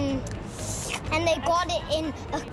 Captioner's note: slurps